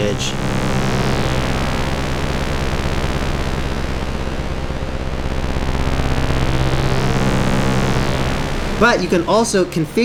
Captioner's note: flappy, jagged tone varying with pressing